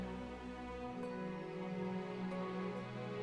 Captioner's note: none